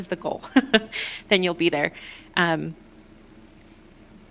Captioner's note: laughter